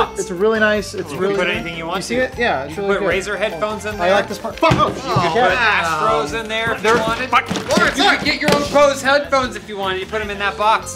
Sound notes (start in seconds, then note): 4.6 thud; 6.6 thud